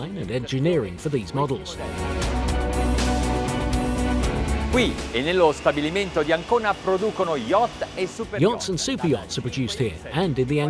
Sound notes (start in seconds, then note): 2.2 dramatic music; 4.8 speaking foreign language